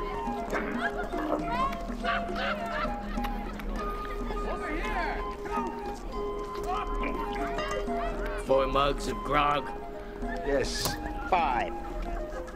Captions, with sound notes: (metal lightly clanging) - Four mugs of grog? - Yes. - Five.